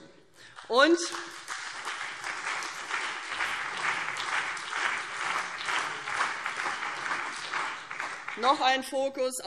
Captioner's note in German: Beifall CDU und BÜNDNIS 90/DIE GRÜNEN